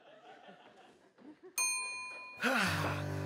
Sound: elevator bell

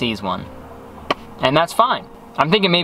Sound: hand slapping

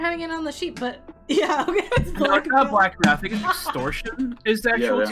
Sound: laughs

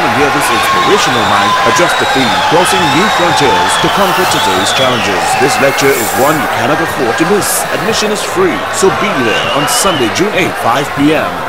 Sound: wild applause and cheering for 22 seconds

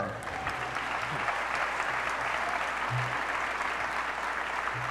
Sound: applause

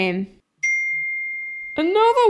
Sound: ding!

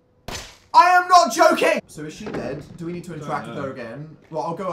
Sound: calmly

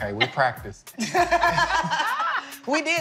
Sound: laughing

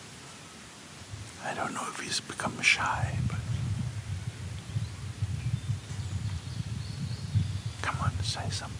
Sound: whispers; whispers to tree

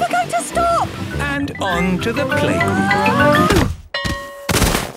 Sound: exclaiming and grunting; bell ringing

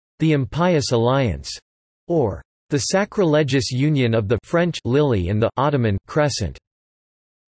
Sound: French

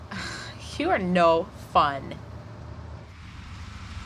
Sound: sigh

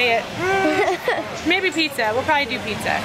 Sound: laughing

